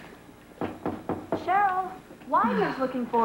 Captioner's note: knock on door